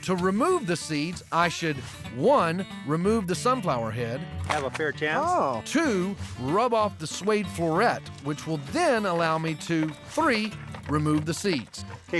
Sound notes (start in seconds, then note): none